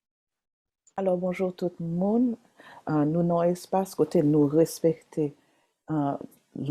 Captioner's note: speaking Haitian Creole